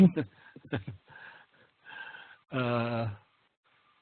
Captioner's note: laughing